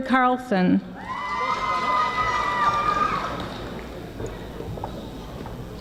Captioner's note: audience screaming